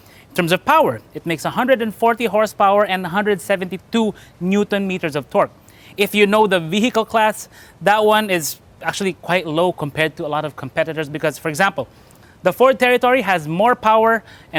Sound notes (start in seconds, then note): none